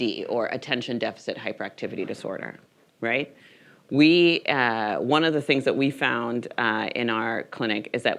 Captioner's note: none